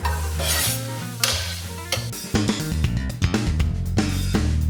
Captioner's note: vegetables sizzle